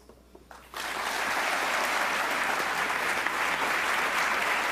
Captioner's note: loud audience applause